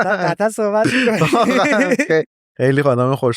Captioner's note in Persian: خنده